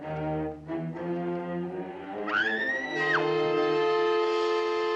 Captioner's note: screams; suspenseful music